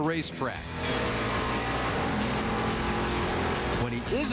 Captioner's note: engine revving